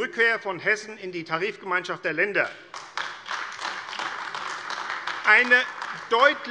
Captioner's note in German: Beifall AfD